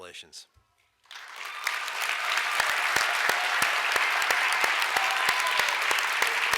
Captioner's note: audience applauds and cheers